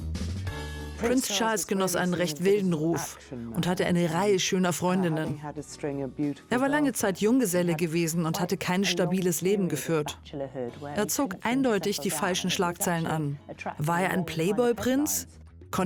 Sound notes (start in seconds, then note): 0.8 voiceover